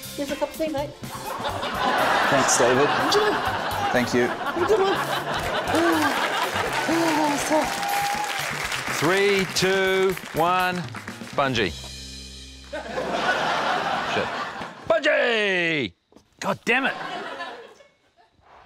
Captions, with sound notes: - Here's a cup of tea, mate. (LAUGHTER) - Thanks, David. - Enjoy. - Thank you. - Have a good one. Ooh, that was tough. - Three, two, one. Bungee. (LAUGHTER) Shit. Bungee! Goddammit!